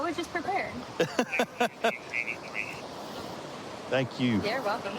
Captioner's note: laughing